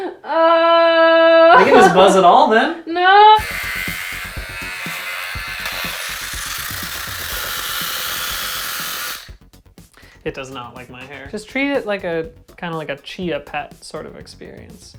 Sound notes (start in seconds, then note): 3.3 buzzing noises; 5.9 shaver jamming